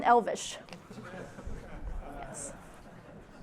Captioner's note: laughter